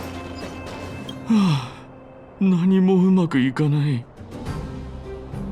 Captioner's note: sigh